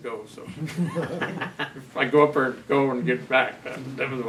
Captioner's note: laughs